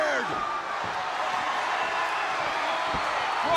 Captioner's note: crowd cheering